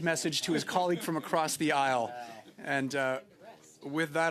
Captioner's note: laughter